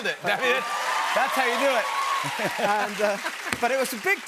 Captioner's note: cheers and applause